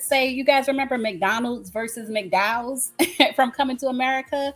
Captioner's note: laughs